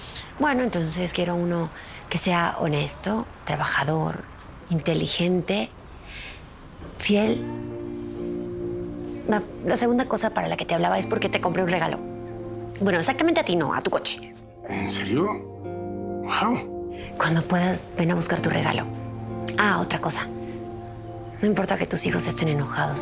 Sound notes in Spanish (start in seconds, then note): none